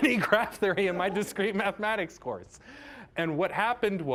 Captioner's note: laughing